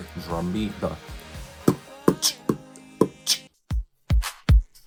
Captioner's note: aggressively beat boxes